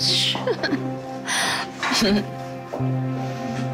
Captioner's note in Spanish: Risas